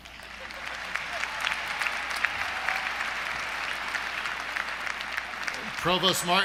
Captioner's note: applause